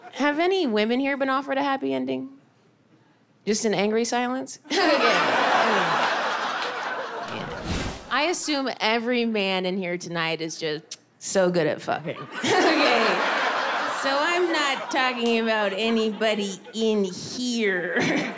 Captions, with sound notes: Have any women here been offered a happy ending? Just an angry silence? (audience laughing) I assume every man in here tonight is just so good at fucking (laughs). (audience laughing) So I'm not talking about anybody in here.